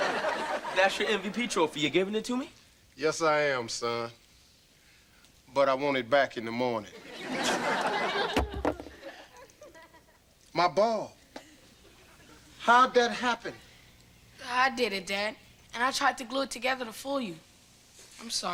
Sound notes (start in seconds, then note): 0.0 audience laughter; 7.0 audience laughter; 8.3 thump